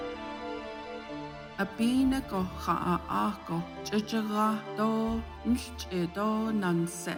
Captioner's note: speaking Navajo